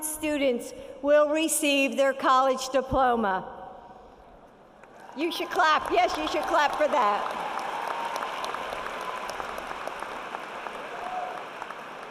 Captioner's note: cheering